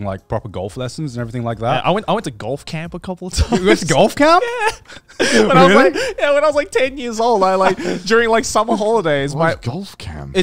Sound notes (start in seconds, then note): 2.7 laughing